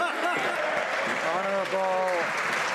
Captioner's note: some Applause